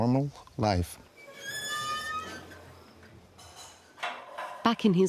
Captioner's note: door creaking